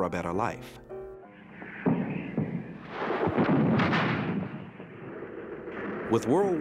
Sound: artillery explosions

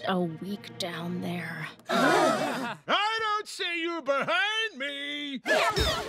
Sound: all gasp

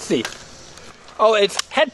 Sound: voiceover

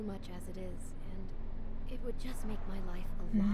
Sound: none

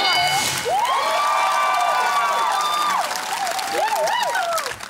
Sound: cheering and applause

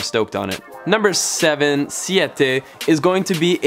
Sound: speaking in a foreign language

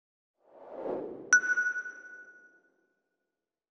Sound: logo whooshes into view, stopping with a sonar-like 'ping'

